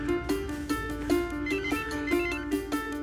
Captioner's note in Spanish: Suena el celular